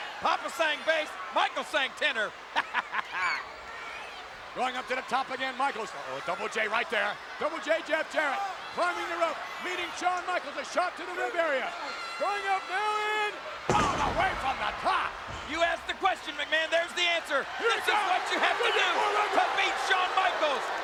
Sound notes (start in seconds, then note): 2.6 chuckles; 13.6 bodies thud